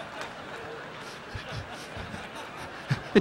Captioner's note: Don laughing